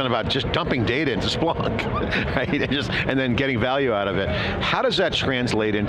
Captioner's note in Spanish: risas